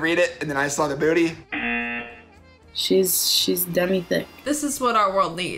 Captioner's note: buzzer